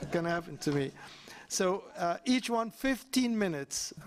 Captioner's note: laughter